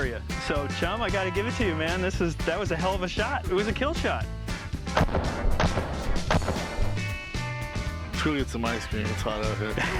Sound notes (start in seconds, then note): 4.9 gunshots